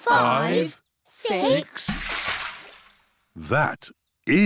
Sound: splash

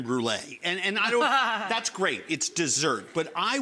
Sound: laughing

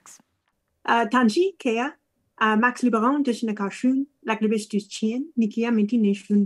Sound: speaking in foreign language

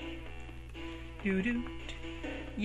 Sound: hums to himself

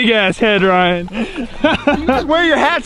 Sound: laughs

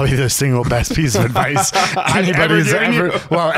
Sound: laughing

